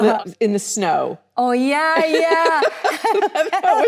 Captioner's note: Annette laughs